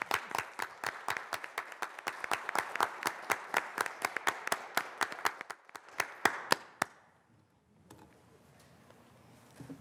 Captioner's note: applause